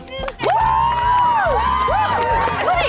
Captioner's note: cheering